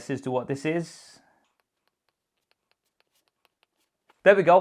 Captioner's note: light tapping sound